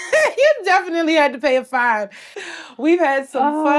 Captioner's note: laughs